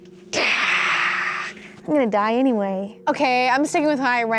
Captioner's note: groans